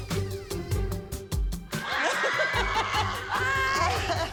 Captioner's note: all cheering; Abby laughing